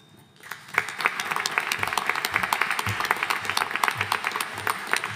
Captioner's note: audience applauding